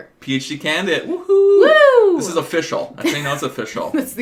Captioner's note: cheering